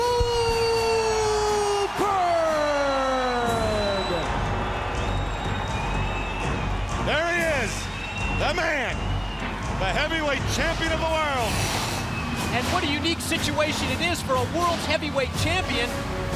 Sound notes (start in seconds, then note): 4.1 crowd cheering